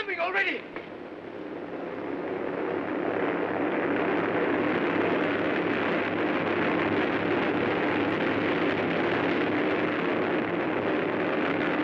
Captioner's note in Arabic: هدير الطائرة